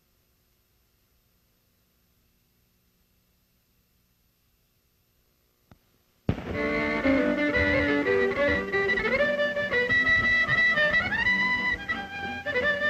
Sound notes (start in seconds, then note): none